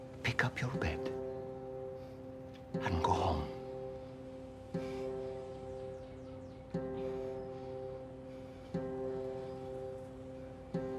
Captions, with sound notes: pick up your bed, and go home. (man panting)